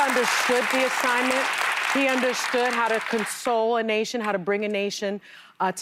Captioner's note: cheers and applause